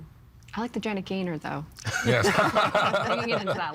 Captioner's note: laughing